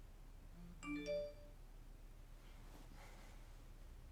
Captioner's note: phone beeping